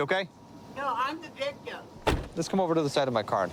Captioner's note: car door closes